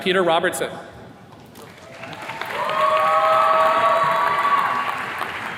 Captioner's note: attendees cheers and claps